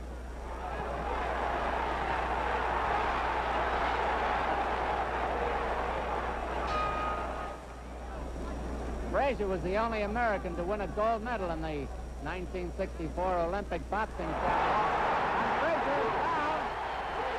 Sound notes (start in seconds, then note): 0.3 crowd cheers; 6.6 bell rings